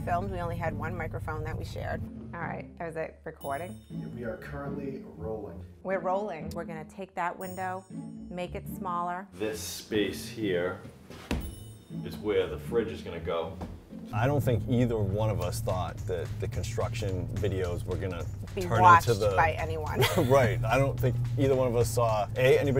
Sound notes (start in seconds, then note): 20.0 chuckles